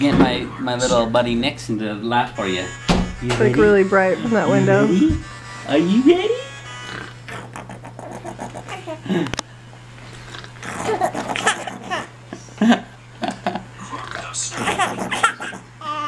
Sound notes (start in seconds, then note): 7.6 playful growling; 10.6 baby laughing; 14.5 playful growling